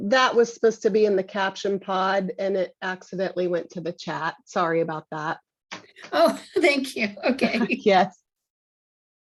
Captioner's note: giggles